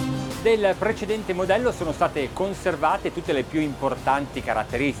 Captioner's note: upbeat pop music; speaking in foreign language